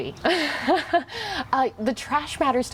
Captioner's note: chuckling